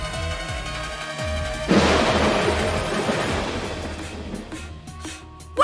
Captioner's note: snap